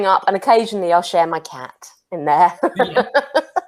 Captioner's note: laughs